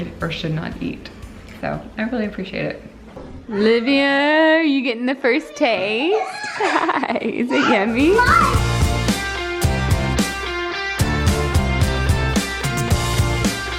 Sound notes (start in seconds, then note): 6.0 laughing; 7.9 upbeat music